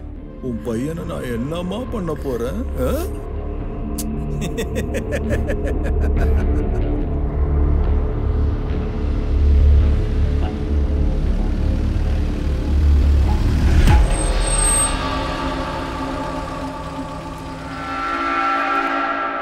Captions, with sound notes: What will I do to your son, huh? (Laugh) (Car Sound)